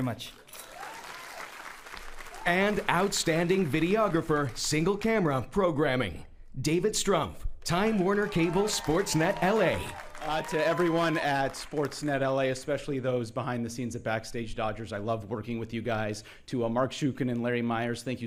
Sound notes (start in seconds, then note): 10.6 cheering and applauding